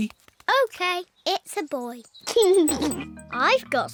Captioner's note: giggles